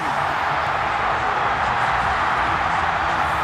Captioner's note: cheers and applause